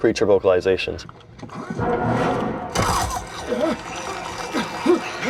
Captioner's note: blood gushing sound